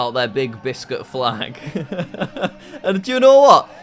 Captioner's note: laughs